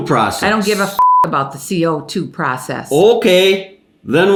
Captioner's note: beep